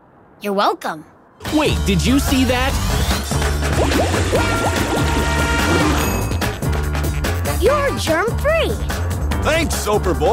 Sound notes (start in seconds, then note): none